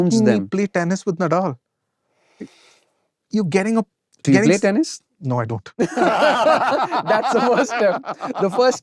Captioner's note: laughter